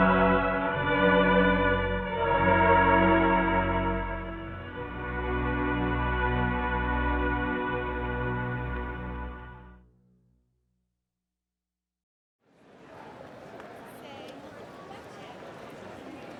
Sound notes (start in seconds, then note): 5.0 song ends; 12.5 crowd chattering